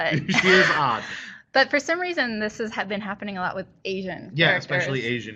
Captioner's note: sighing